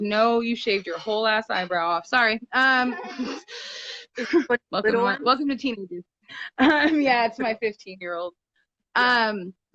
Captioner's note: child laughs